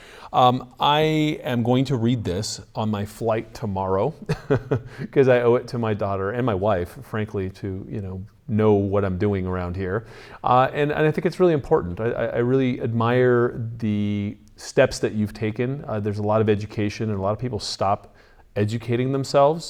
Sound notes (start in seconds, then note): 4.2 chuckles